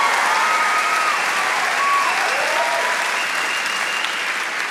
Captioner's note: audience applauds